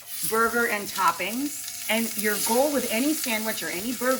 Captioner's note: burger sizzling